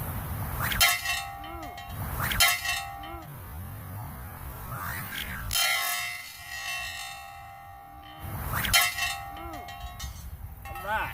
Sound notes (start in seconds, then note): 0.4 sling whips; 0.6 metal ringing; 1.9 sling whips; 2.8 metal ringing; 3.8 sling whips; 4.7 metal ringing; 8.3 sling whips; 9.1 metal ringing